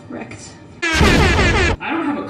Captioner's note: annoying airhorns and explosions